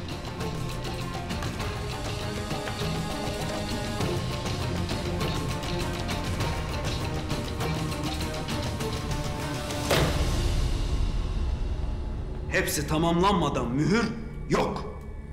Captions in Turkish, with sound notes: (Müzik - Gerilim) (Vurma sesi) Hepsi tamamlanmadan mühür yok!